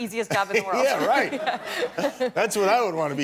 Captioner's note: laughter